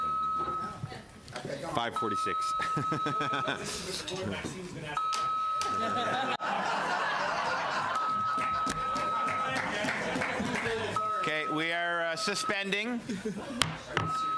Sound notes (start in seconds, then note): 1.0 alarm sounding